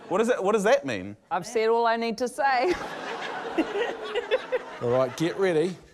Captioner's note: laughter